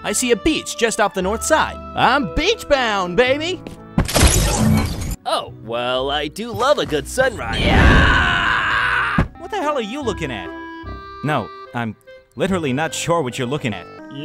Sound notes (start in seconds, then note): 7.4 yells